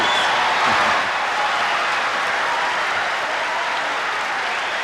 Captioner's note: applause